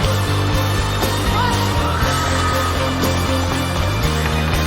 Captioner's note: crowd screaming